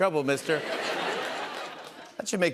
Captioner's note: laughter